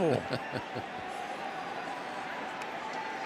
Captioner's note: laughs